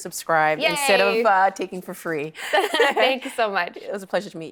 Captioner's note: laughing